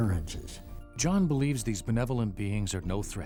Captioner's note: voiceover